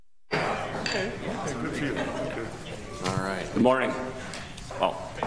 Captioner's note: gavel bangs